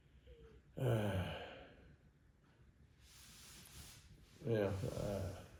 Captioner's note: sighs